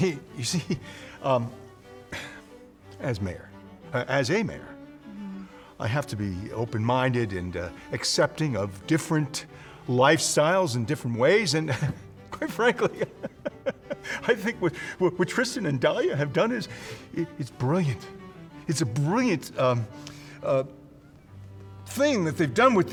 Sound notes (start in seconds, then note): 12.7 laughs